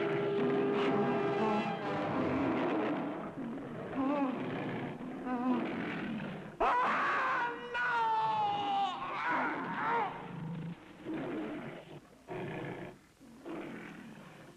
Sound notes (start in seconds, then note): 0.0 lion growling; 6.6 screaming; 9.0 lions growling